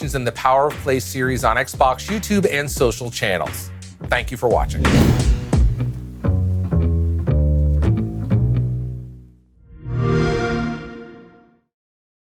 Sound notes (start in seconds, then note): 9.8 xbox sound